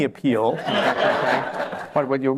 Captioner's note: laughter